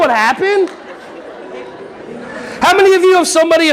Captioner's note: audience laughing